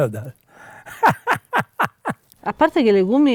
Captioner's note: laughs